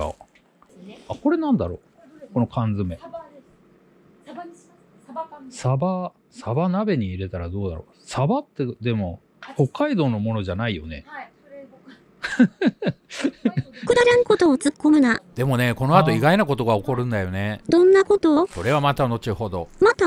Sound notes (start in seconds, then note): 12.2 laughs